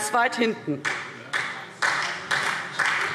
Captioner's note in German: Beifall SPD